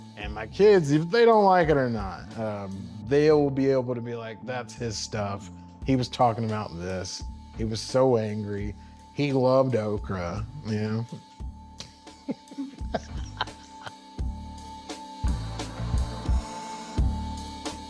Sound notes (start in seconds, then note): 12.1 laughs; 15.0 upbeat music